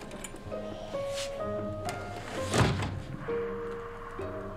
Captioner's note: bright piano music; loud breathing